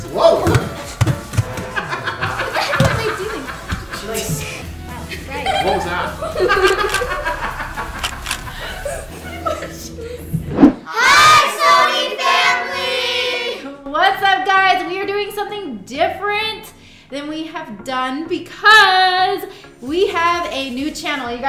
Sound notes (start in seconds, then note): 6.8 laughing